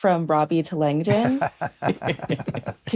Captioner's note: laughter